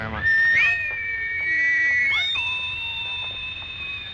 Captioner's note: loud whistle